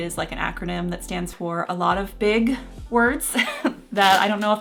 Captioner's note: chuckling